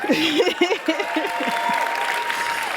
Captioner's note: applause